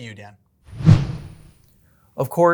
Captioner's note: whoosh